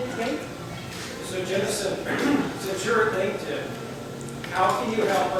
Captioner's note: voiceover